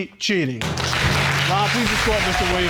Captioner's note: audience applauding